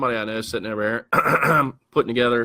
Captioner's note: clears throat